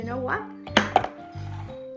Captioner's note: thud sound